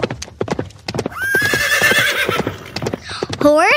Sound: animal whinnies

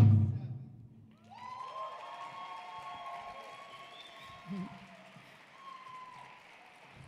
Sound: audience cheering; audience applauding

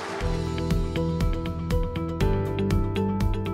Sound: cheers and applause

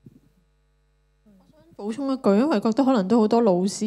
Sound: Cantonese

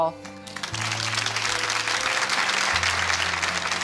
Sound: applause

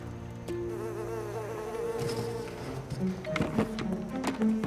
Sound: flies buzzing

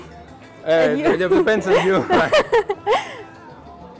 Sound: laughing

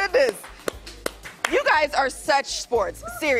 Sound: cheering and applause

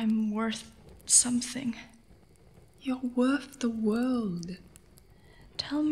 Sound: whispers, soothing

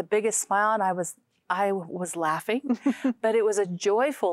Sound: giggling

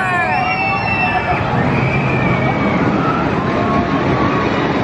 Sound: screaming

